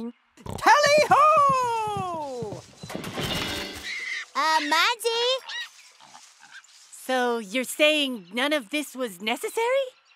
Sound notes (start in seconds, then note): 0.4 oinks; 2.9 loud crash; 3.8 pig squeals